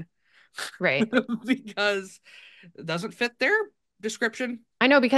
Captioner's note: laughs